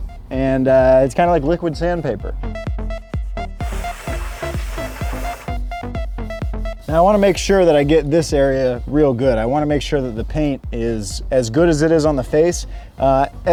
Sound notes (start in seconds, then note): 2.8 upbeat music; 3.6 hose spraying